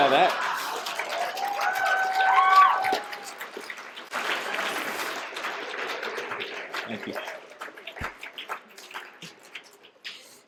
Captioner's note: applause